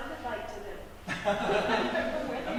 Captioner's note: laughter